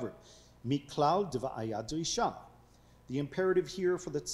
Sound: speaking foreign language

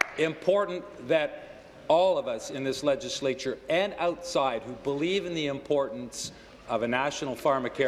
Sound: applause

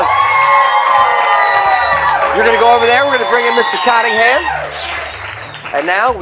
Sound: cheers and applause

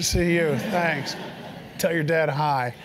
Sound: laugh

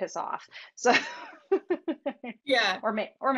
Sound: laughing

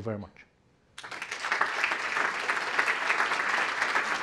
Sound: applause

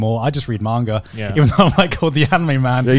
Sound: chuckling

